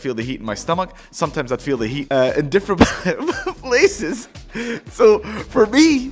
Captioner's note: coughs